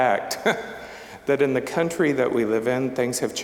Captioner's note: chuckling